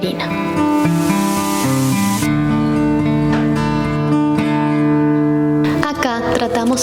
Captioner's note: soft music; wind whooshing